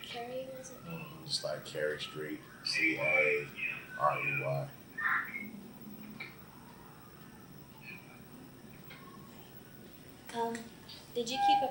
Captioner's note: fire siren sounds